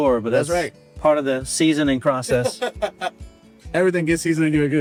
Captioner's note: server laughing